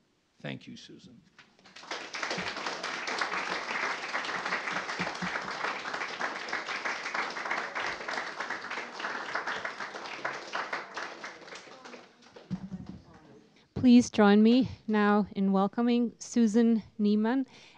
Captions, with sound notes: Thank you, Susan. [applause] Please join me now in welcoming Susan Nieman,